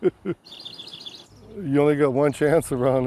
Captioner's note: laughs; bird trills